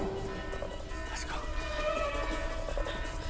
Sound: whispers

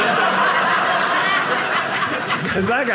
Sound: audience laughing

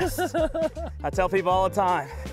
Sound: laughs

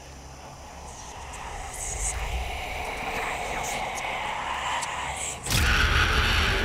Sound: whispers intensifying

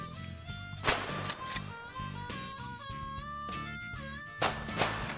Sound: gunshots

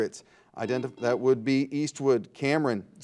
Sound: buzzer dings

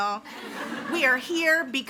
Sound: audience laughs

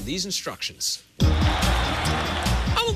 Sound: crowd roaring

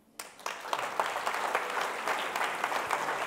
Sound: applause

